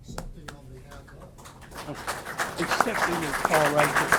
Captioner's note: applause